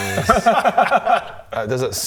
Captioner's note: unsupportive laughter